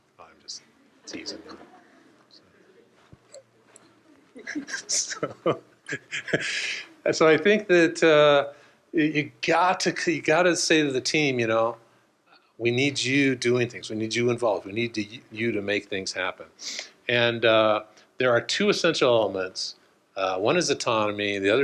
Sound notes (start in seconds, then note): 3.8 laughs